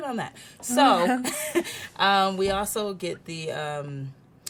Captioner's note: laughs